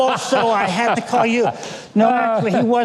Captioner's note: laughing